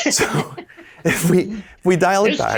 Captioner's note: laughing